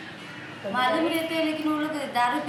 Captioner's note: speaking Indian language